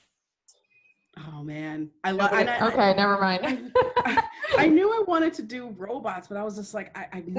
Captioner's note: laughter